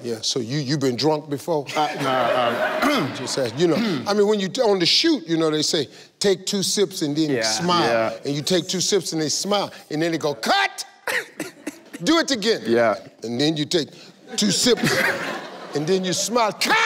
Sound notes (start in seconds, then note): 3.8 clears throat; 12.2 in African accent